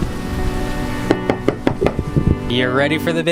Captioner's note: knocking on door